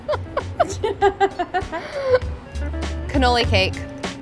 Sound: laughter

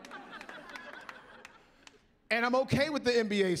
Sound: laughing; clapping

